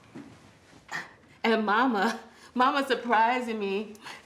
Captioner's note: laughs